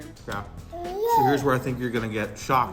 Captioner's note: baby gibberish